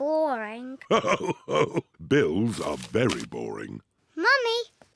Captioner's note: laughing